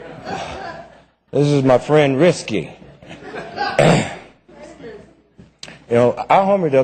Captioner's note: laughter